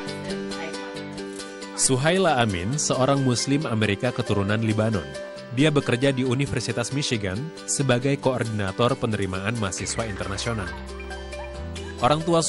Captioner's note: non-english speech